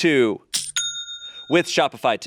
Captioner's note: cash register dings